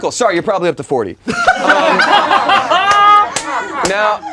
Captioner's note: laughing